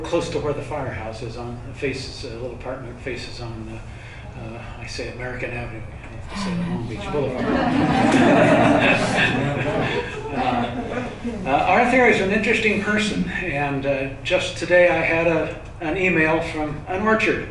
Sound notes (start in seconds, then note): 7.3 laughter